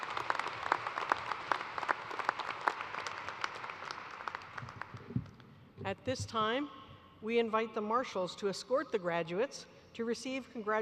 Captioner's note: applause